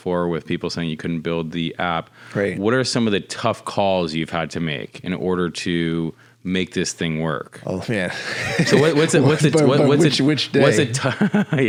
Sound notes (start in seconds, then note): 8.0 laughing